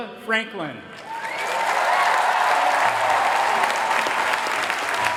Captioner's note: applause